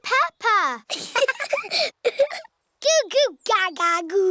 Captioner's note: both laughing